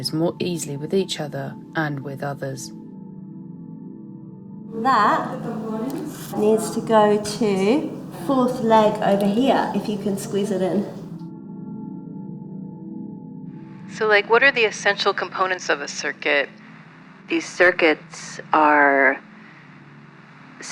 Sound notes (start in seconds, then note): 11.8 a voice with a radio texture